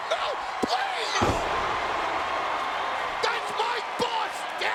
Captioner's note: body slamming